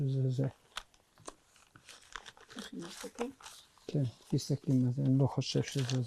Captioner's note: hebrew